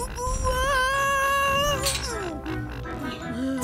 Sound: Baker straining; yelling

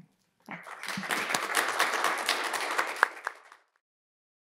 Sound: audience clapping

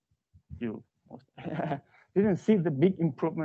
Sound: laughs

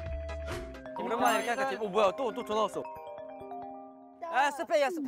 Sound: Newest phone rings again

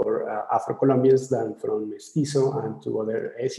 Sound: speaking in foreign language

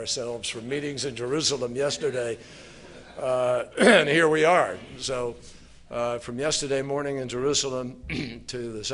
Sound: laughter

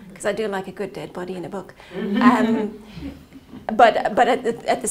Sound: laughing

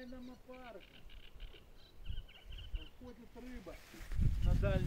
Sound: man speaking foreign language

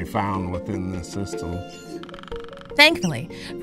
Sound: woodpecker drumming

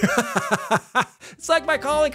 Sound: laughing

